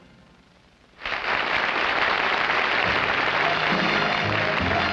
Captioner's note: audience applauding; upbeat music